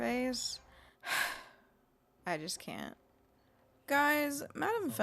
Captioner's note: petulant sigh